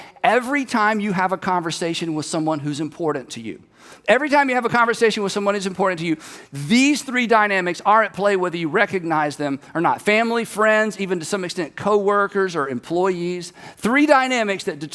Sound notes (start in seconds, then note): none